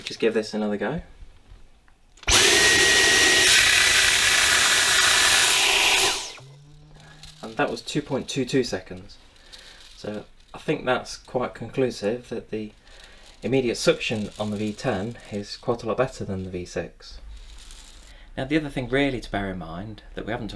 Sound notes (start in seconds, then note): 2.2 sucking noise